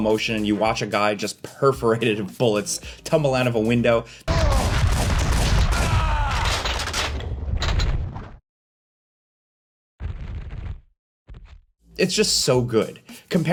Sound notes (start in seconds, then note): 4.2 character grunting; 4.3 gun firing; 6.3 metal clattering; 7.0 wind whooshing